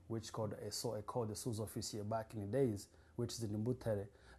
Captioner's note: non-english